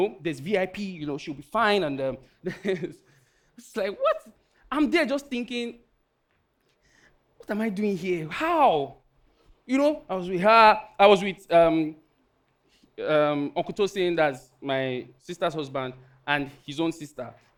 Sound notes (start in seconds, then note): 2.3 laughing